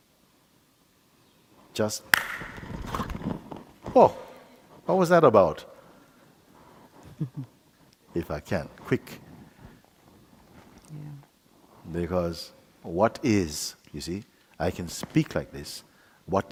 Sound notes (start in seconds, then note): 2.1 clap